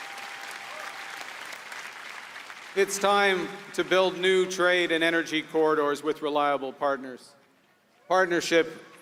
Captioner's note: applause